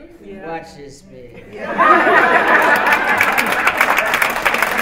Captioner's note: laughter and applause